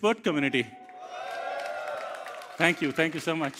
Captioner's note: cheers, applause